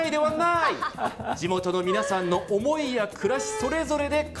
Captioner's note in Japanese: 笑い